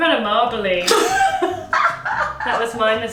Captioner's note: laughing